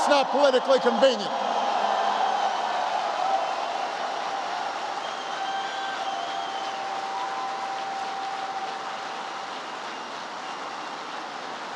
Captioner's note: applause